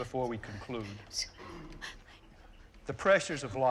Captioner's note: whispering